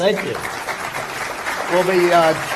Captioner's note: applause